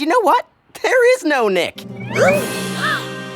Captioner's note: shocked gasps